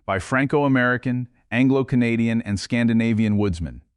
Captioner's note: serious tone